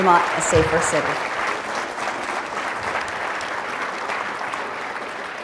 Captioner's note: audience applauding